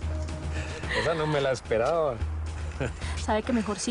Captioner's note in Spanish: Risas